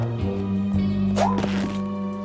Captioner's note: creak!